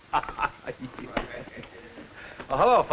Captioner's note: laughter